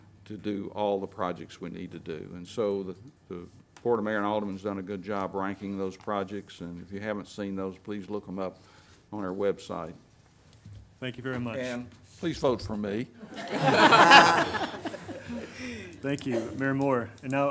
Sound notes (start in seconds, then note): 13.3 everyone laughs